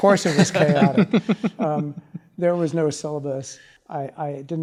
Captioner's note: laugh